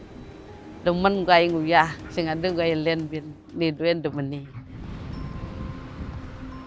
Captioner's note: speaks in a foreign language